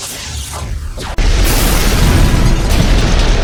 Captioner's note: explosions booming; gun blasting